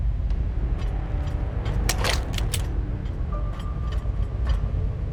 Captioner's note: door opens